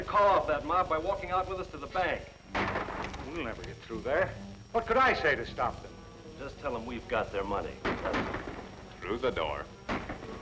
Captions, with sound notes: We'll never get throug What could I say to st Just tell them we've got their money. Through the door. [gunshots]